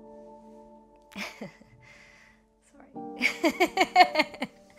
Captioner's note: laughs